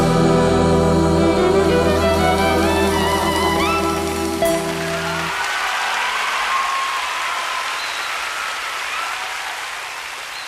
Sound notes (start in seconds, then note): 5.3 audience applauding and cheering